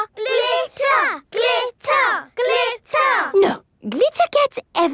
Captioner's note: chanting